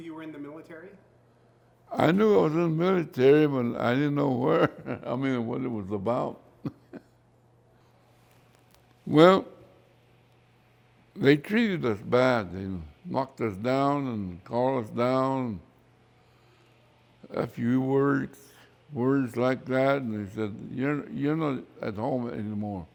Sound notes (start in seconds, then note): 7.5 laughs